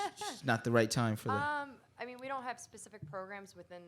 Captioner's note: laughing